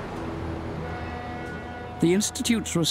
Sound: boat horn

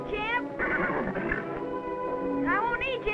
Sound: neighs

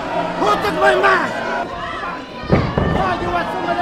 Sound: Chico yelling; audience shouting; audience booing; slap

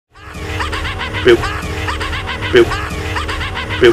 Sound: laugh

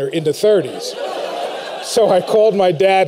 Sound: laughter

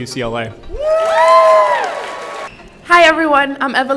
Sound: attendees cheering

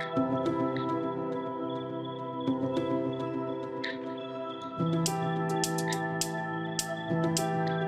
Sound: upbeat music; crickets chirping

